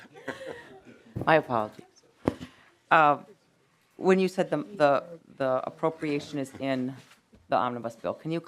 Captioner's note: laughing